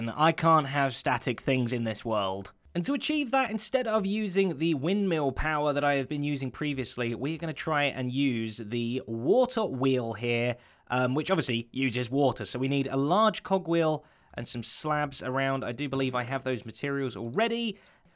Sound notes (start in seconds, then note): none